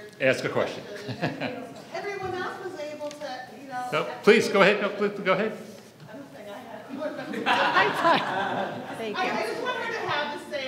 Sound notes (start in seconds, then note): 7.0 laughs